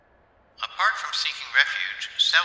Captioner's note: Felger radio voice